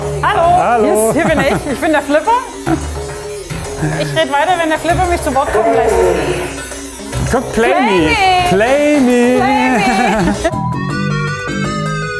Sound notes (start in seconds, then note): 9.4 laughs; 10.8 weird music